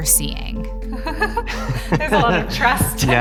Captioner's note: chuckles